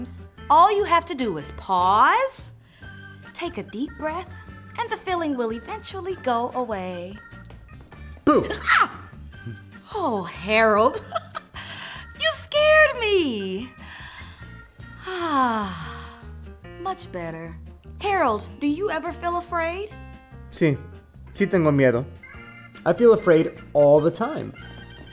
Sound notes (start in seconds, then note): 8.4 yelps; 10.9 chuckles; 20.4 speaking spanish